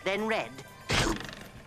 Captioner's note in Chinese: 咻!